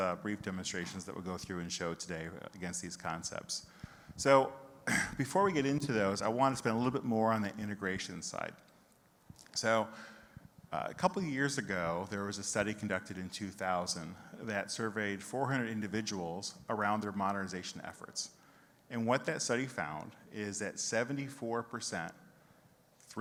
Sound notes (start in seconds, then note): 4.8 clears throat